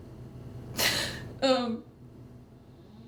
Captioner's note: inhalando